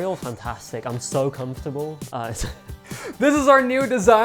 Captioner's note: chuckles